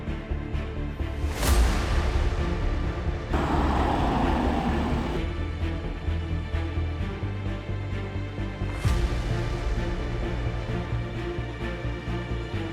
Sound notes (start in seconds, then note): 0.9 suspenseful music continues; 3.3 van engine whirring; 5.9 suspenseful music; 8.8 dramatic ambient music